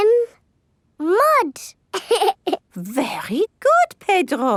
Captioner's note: laughs